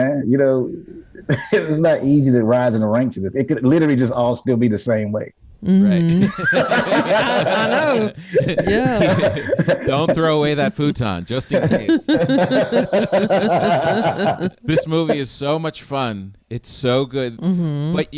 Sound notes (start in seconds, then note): 6.1 everyone laughs; 11.5 everyone laughs